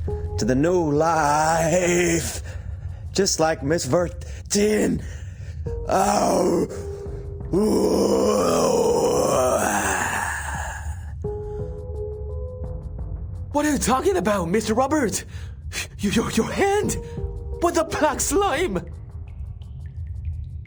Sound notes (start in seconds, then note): 7.6 roar